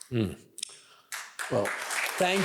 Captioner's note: audience applauds